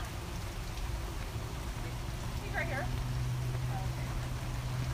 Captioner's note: rain